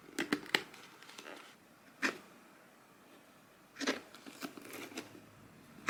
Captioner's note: sounds of thread being pulled out